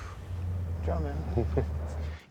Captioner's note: chuckling